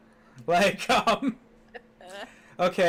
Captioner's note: laugh